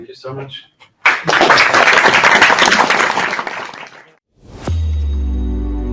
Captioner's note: audience applauds